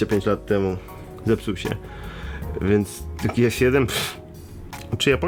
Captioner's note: scoffs